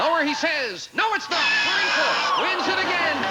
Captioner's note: buzzer sounds; audience applauding